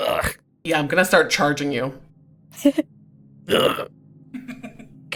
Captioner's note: groans